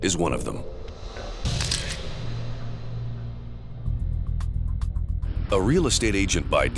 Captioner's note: camera shutter clicks